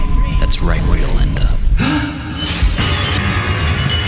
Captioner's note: man gasps; scare chord